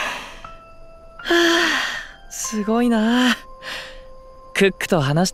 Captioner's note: sigh